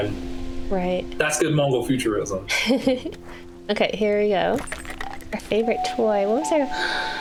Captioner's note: laughs